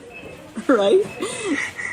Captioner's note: laughs